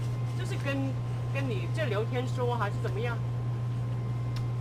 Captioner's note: mandarin